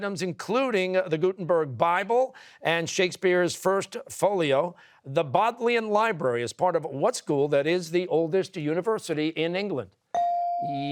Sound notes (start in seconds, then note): none